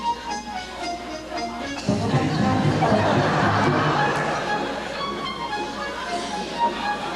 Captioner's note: audience laughter